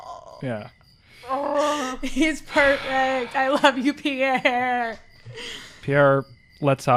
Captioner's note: laughing